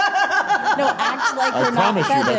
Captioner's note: laughing